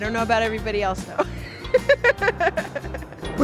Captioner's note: laughter